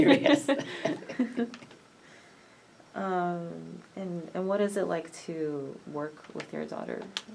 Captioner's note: laughs